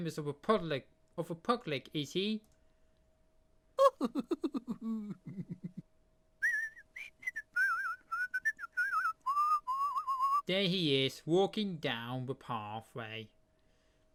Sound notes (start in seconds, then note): 3.4 mr tickle chuckling & whilsting